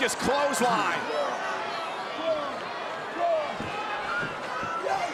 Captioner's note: crowd yelling